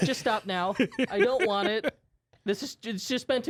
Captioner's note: softly laughing